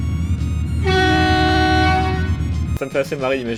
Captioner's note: honk